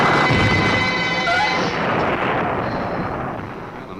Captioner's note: trunk thumps; Ann gasps